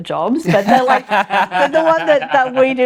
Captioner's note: both laughing